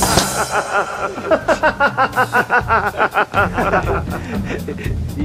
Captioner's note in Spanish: risas